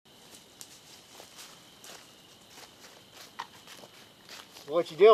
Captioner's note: crickets